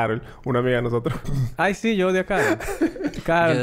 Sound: laughs

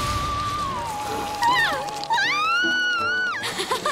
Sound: screaming; laughing

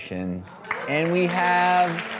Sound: crowd claps

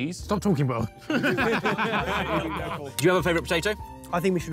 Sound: laughing

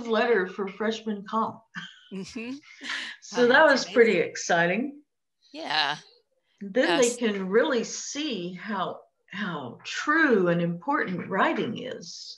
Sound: laughs

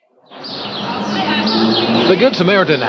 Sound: birds chirping

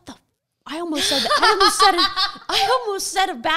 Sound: laughs loudly

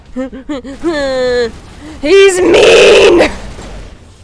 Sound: cries

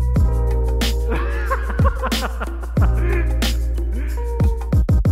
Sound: laughing

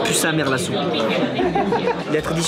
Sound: laugh

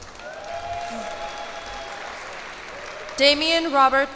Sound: cheers and applause

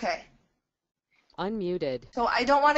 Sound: voiceover

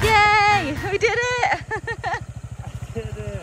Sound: laughs

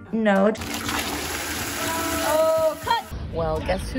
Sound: splashing

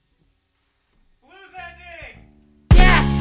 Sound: shouting

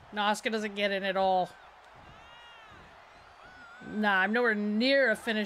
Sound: applause

